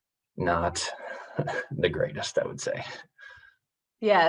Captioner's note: chuckles